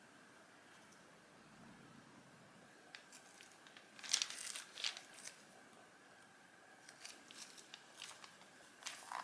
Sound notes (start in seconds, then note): 2.9 sticking sounds as material is repositioned